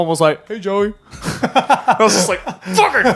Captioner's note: laughing